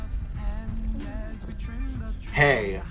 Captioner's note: Parasol giggles